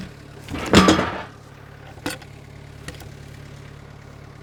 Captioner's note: wood clunking